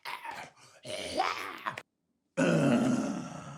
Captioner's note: growls